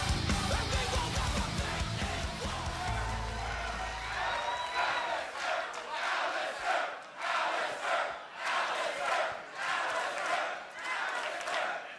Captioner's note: crowd cheering